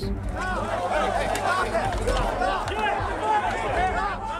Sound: people yelling

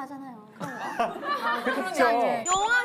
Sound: laughing

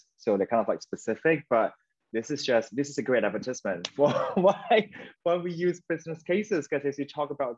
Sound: laughing

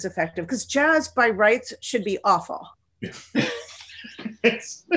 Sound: chuckles

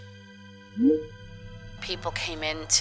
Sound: electronic blip

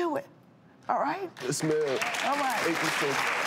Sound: audience applauds

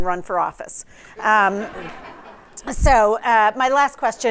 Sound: laughter

